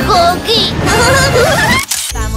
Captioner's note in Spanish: Risas